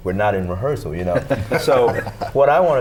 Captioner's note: laughter